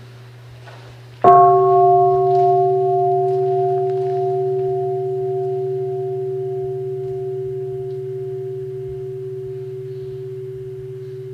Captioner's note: three sounds of the bell